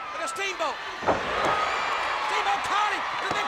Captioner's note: audience cheers